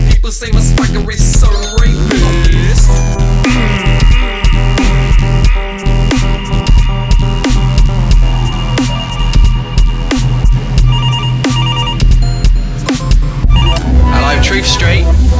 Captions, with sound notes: people say my swagger is "so rapist". *urrgrghnrgh* 'Allo, Truth Street.